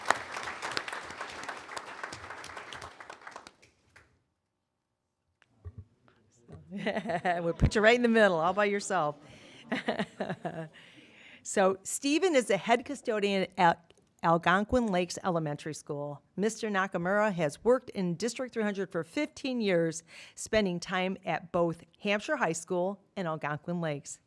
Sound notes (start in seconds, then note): 2.0 applause; 10.2 laughs